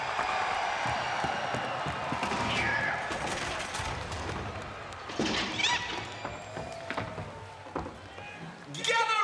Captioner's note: cheers & applause